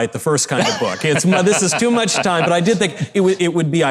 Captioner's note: Mike laughing